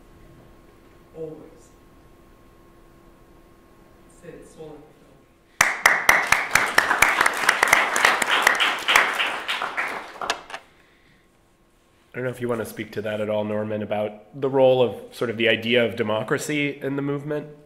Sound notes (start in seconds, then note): 5.6 applause